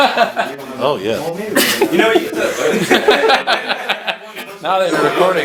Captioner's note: laughing; laughs